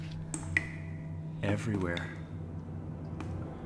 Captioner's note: water dripping